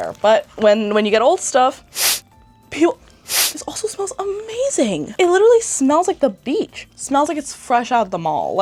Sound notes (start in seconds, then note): 3.2 sniffs